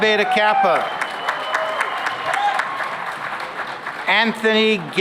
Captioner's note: cheering and applause